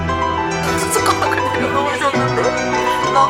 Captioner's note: laugh